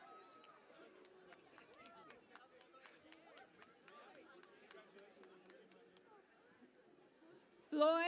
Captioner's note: cheering and Applause